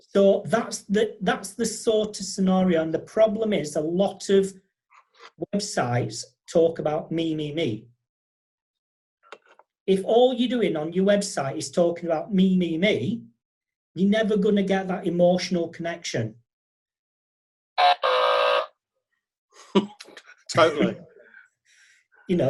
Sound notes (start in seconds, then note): 17.7 buzzing; 20.6 laughing